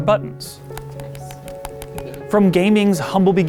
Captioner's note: analogue stick clicking